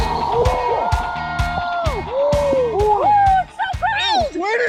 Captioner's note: cheers